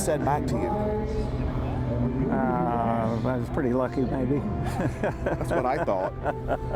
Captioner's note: laughs